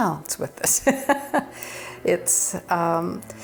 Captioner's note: laughs